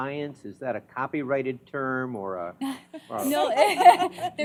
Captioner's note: laughter